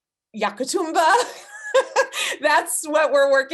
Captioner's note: laughing